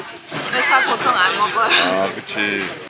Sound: laughing

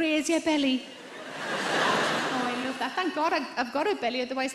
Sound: audience laughs

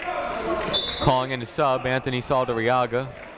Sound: whistle blowing

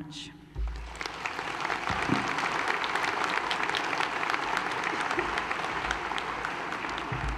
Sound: applause

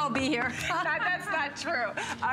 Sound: laughter

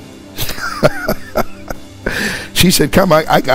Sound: laughing

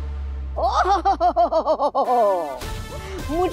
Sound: giggles

